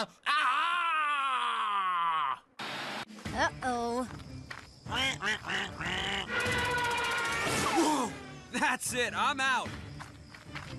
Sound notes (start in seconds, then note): 4.9 duck Quacking